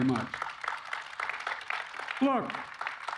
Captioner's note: applause